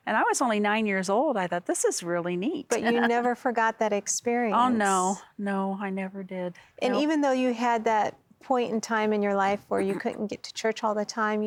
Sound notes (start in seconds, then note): 2.7 laughing